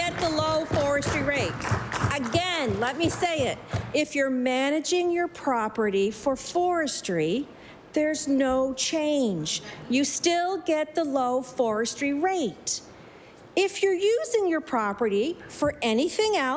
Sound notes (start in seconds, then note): 2.8 applause